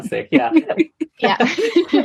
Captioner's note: laughing